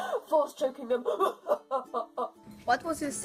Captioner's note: evil laugh